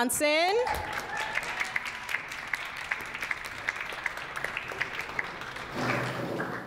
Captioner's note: audience applauds and cheers